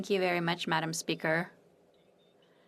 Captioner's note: speaking French